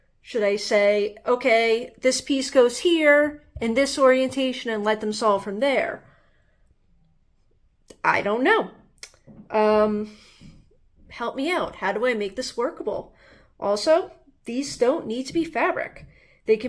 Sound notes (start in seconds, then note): 9.0 tongue click